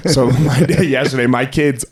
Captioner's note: laughing